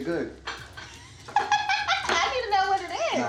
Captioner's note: laughing